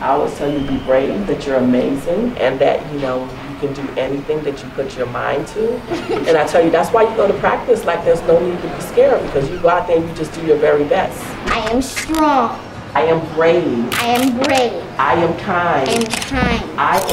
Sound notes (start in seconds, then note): 5.8 giggling